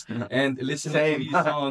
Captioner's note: laughs